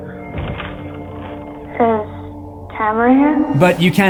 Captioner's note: knocking